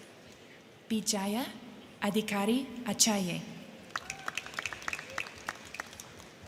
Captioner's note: crowd cheering